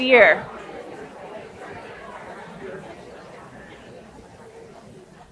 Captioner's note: people chattering